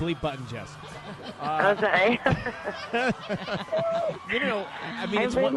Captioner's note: laughs